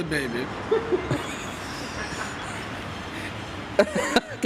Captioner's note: laughter in background, ha, ha, ha